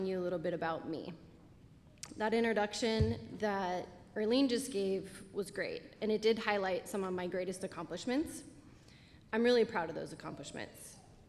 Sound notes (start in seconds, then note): none